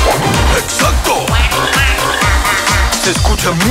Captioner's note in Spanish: Música alegre; Sonido de animales